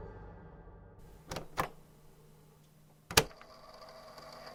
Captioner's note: click